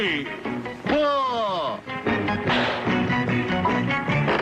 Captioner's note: ball whacking; ball pinging; lively music